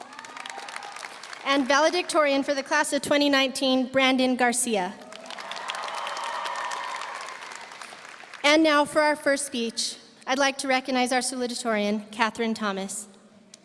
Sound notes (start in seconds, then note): 0.0 audience cheering; 0.0 audience applauding; 5.0 audience applauding; 5.0 audience cheering